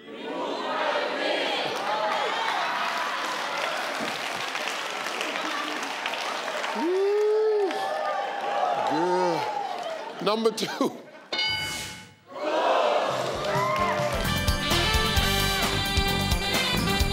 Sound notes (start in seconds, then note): 2.0 audience laugh; 11.3 bell clanging; 13.8 upbeat music